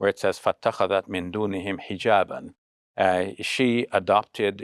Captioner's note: speaking Arabic